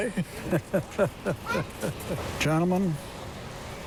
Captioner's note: chuckles